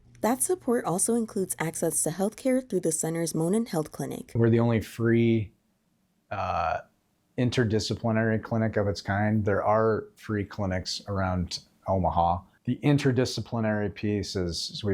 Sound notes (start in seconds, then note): none